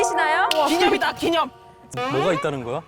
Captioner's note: wanting to share the joy sound